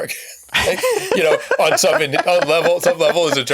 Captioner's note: laughing